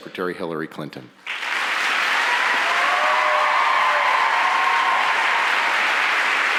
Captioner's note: audience applauds and cheers